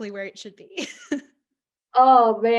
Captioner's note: laughs